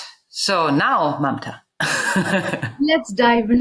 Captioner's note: laughs